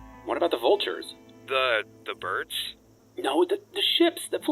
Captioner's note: none